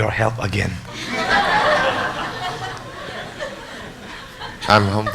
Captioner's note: audience laughs